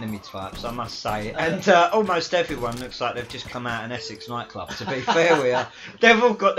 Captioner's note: laughs